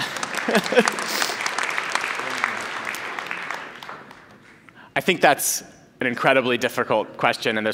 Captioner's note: applause